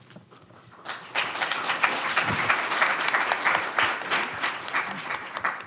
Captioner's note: audience applauding